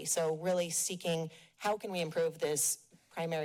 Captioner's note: none